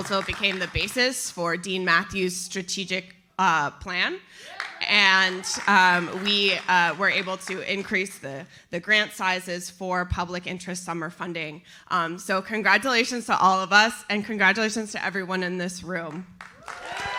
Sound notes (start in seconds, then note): 4.5 audience applauds; 16.4 audience cheers and applauds